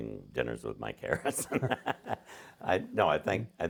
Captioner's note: laughing